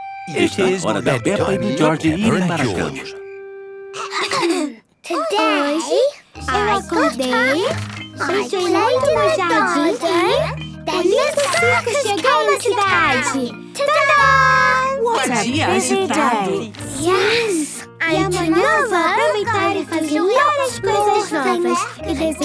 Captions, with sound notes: - It is bed time for Peppa and George. (clears throat) - Today... I got up. I played in the garden. And then the circus came to town! Ta Da! - What a busy day! - Yes! And tomorrow, I will do lots more things